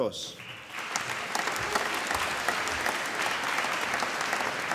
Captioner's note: applause